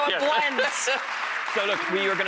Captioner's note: laughter; audience applause and laughter